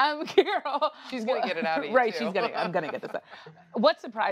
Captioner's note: laughter; laughs